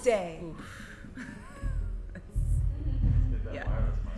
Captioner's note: breathes out deeply; chuckling slightly